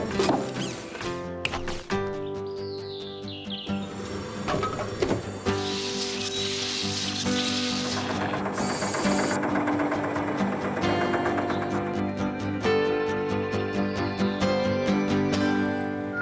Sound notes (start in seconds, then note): 6.2 cement Mixer Whirring; 8.3 engine Running